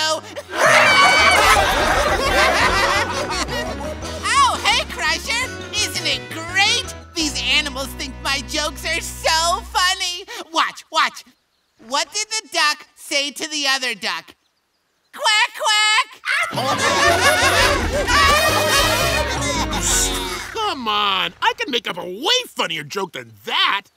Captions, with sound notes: [laughing] Oh hey Crusher, isn't it great? These animals think my jokes are so funny. Watch, watch. What did the duck say to the other duck? Quack quack! [laughing] Come on, I can make up a way funnier joke than that.